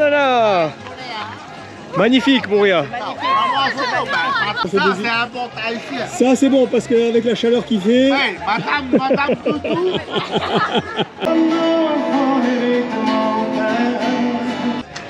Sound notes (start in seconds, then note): 8.5 laughs